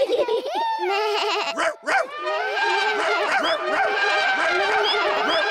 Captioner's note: all giggle; all shout and make noises